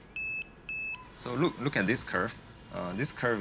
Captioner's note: device beeps